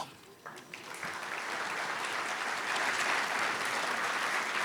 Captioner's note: audience applauding